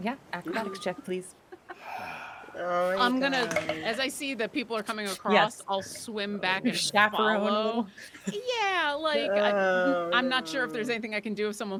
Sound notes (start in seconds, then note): 1.8 deep exhaling